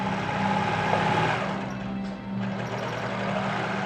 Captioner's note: sewing machine whirring